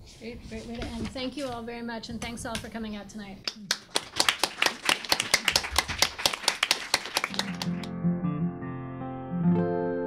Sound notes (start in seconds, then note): 3.5 clapping; 7.3 guitar music